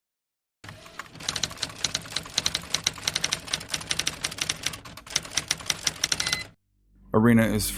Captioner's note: typewriter noises